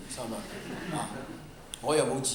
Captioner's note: laughter